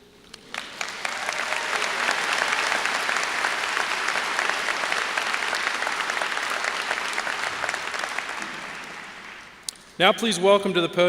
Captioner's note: applause